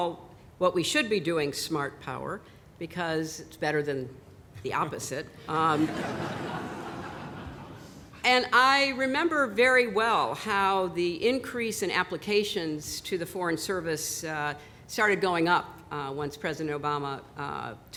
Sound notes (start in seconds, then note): 5.7 laughter